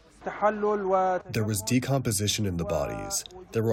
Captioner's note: through translator